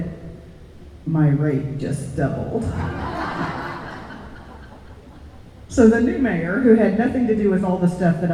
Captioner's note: laughter